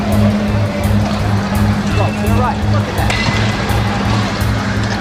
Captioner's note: engine roaring